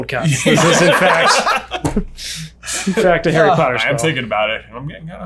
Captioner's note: laughter